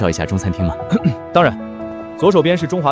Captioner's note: cough